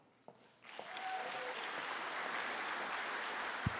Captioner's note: applause